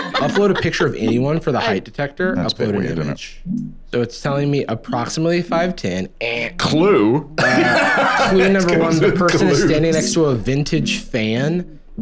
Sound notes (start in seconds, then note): 7.4 laughs